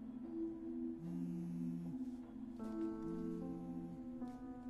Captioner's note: phone vibrating